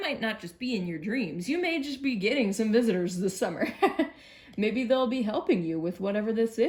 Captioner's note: laughs